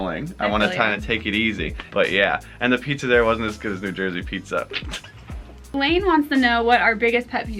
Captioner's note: laughs